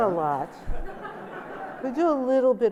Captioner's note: laughter